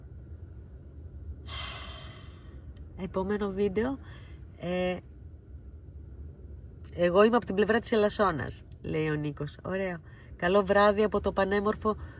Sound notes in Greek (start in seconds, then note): 1.4 αναστενάζει